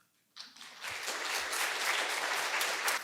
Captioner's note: applause